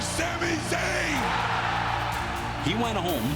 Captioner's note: crowd cheering